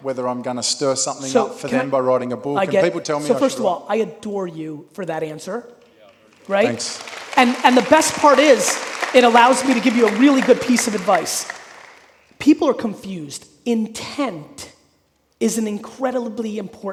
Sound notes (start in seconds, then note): 6.2 audience applauding